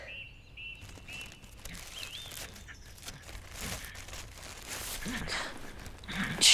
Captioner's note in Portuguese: Chiado leve